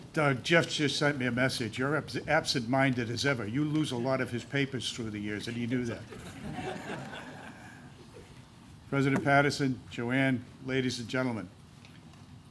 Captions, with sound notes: Dough, Jeff just sent me a message, your absent minded as ever, you lose a lot of his papers over the years and he knew that. *Laughter* President Patterson, JoAnne, lady's and gentlemen.